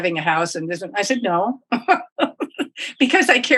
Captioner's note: laughs